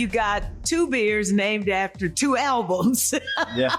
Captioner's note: laughing